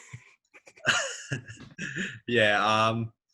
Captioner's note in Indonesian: tertawa